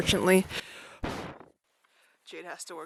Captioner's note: blows out mic